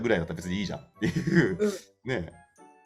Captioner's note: laugh